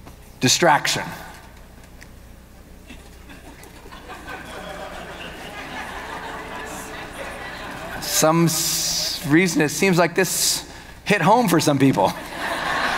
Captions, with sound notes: Distraction. (audience laughing) Some reason it seems like this hit home for some people.